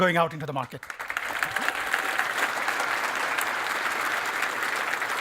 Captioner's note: applause